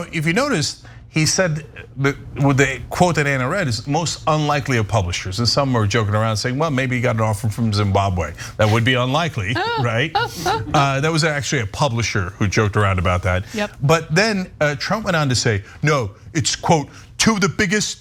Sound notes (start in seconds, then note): 9.5 laugh